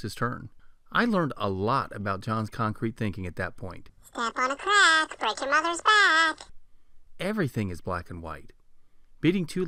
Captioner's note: man's voice